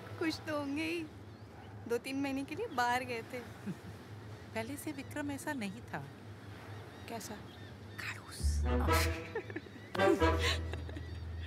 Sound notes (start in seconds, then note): 8.1 Whispering; 8.9 Chuckling